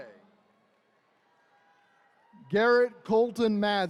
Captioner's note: attendees cheering